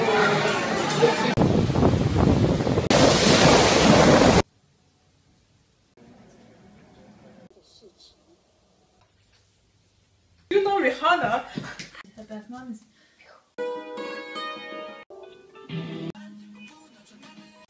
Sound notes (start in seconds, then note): 0.0 waves and sea noises; 0.1 wind noises; 13.6 dulcimer music